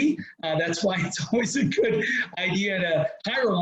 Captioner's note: laughs